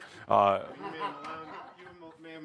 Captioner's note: laughter